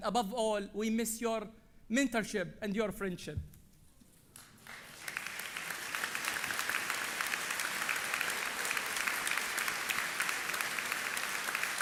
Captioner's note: applause